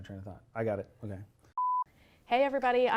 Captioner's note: beep